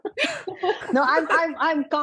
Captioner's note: laughter